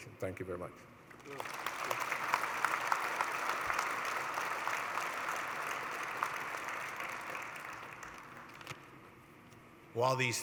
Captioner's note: applause